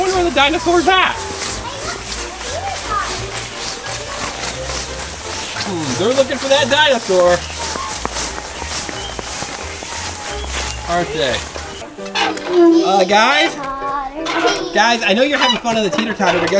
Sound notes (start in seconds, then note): 11.7 children chanting